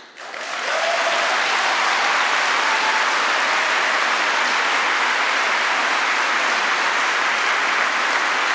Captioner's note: applause